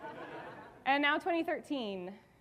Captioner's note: audience laughing